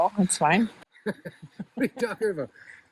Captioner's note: laughing